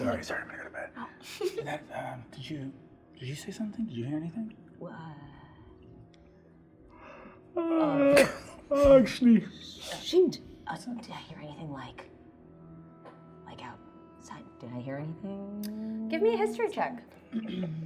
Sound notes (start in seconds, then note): 7.4 yawning